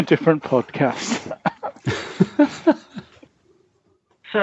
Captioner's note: laughs